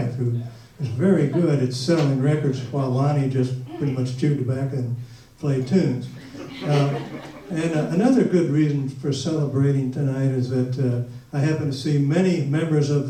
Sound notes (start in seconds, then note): 6.0 audience laughs